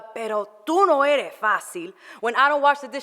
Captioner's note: foreign language